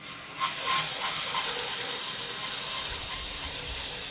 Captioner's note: sawmill whirring